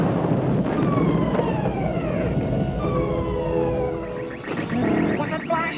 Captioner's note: ship alarm whaling